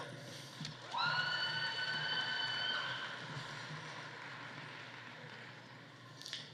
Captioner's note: audience cheering; audience applauding